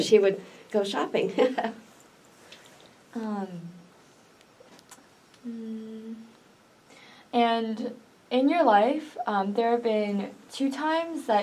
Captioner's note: laughs